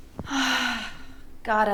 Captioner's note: Maisie sighs